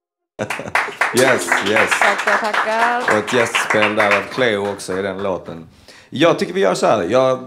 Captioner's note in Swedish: Applåder